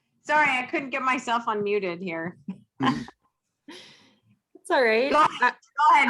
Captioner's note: laughs